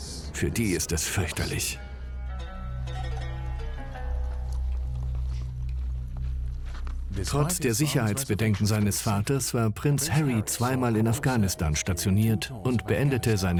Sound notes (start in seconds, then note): 1.0 slow string music; 7.0 voiceover